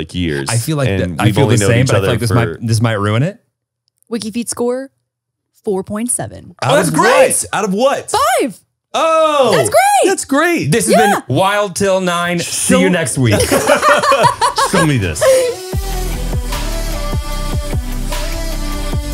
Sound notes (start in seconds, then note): 13.2 everyone laughs; 15.5 upbeat music plays